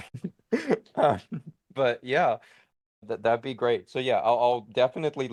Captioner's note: giggle